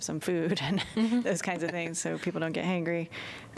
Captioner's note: laughter